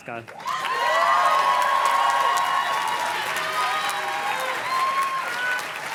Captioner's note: audience cheers and claps